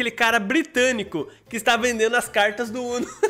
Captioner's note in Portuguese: risos